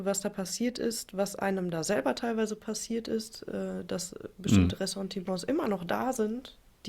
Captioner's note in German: räuspern